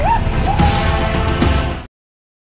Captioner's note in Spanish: gritos